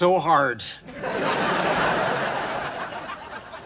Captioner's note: laughs